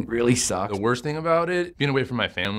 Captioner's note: voiceover